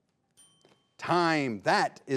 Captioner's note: bell rings